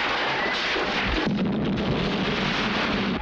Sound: explosion

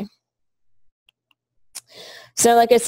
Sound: pause

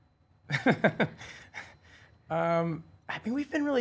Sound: laughing

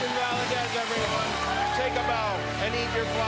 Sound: cheers and applause

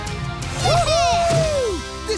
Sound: cheering

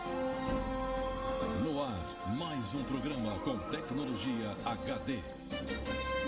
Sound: man speaking portuguese

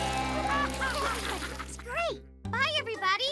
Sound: laughing

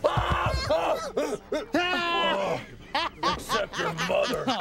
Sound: shouts; laughing

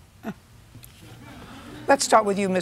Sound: laughs; laughter

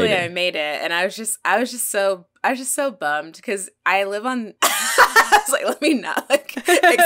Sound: laughs

